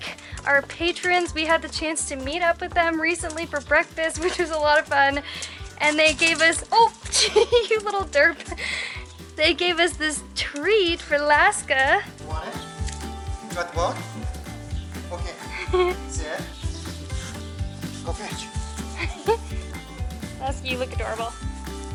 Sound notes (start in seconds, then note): 7.1 laughter